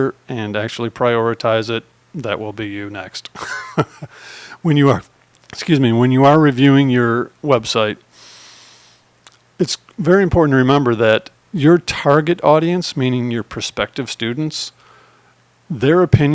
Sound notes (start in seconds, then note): 3.3 laughs